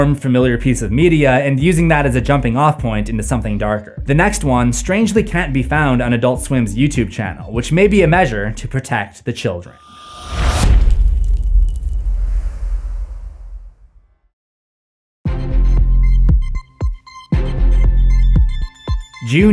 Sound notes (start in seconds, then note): 9.9 impact